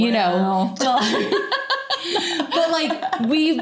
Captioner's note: laughing